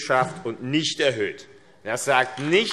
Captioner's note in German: Beifall AfD